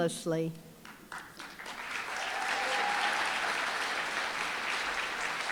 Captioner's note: applause, cheering